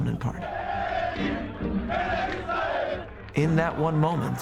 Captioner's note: chanting